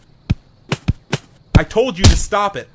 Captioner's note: hitting sounds